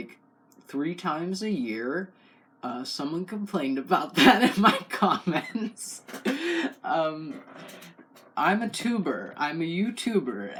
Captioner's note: laugh